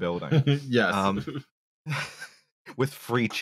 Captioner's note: chuckles